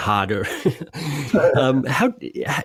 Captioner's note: laughing